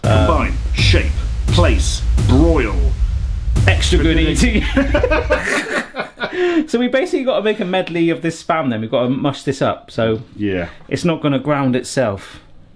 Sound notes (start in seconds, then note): 0.0 drumbeat music; 5.7 both laughing